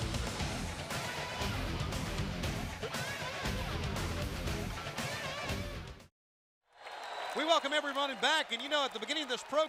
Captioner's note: crowd cheering